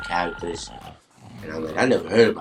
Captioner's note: men snore